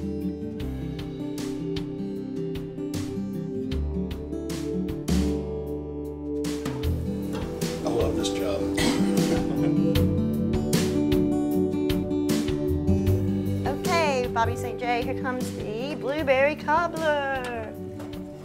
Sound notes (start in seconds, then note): 9.0 laughter